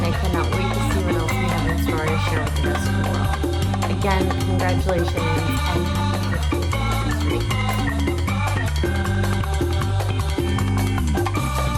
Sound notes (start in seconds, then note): 7.7 blowing kisses; 9.1 upbeat music